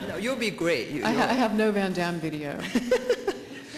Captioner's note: laughter